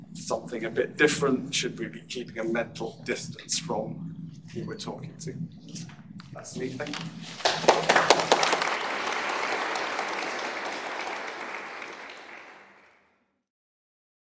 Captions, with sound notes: something a bit different? Should we be keeping a mental distance from who we're talking to? That's me, thank you. [Applause]